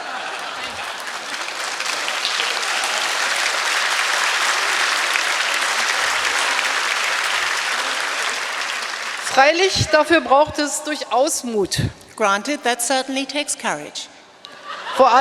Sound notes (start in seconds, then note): 0.0 applause; 9.3 speaking in German